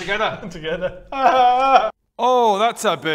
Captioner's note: cries